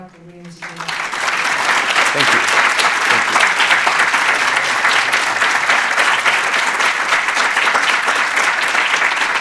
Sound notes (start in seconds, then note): 2.1 audience clapping